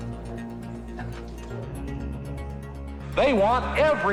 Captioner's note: speech echoes in large hall